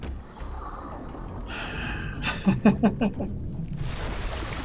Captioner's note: sighs and chuckles